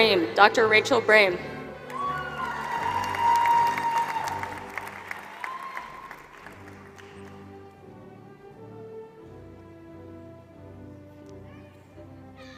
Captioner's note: applause